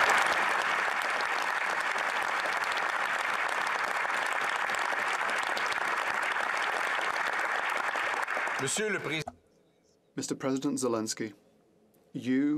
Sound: applause

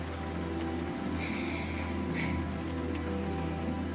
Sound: cassie sighs

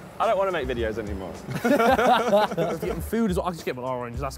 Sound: both laughing

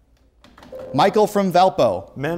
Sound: beeping

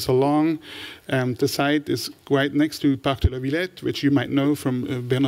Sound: french

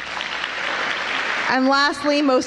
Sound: applause

